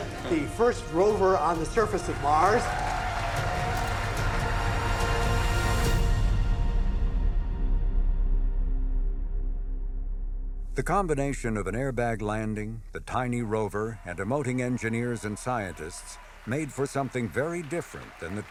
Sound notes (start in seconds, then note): 2.6 inspirational music; 2.6 people cheering